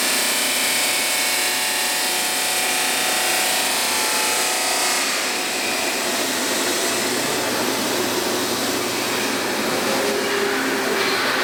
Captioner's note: machine Noises